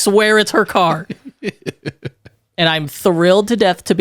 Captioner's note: laughs